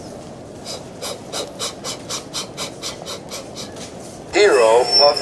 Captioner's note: engines chuffing away